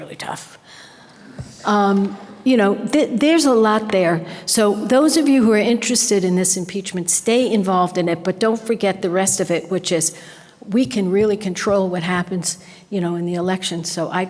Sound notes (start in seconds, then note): none